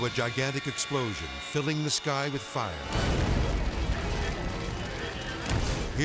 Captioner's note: explosion booms